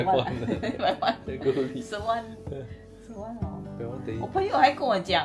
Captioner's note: laughs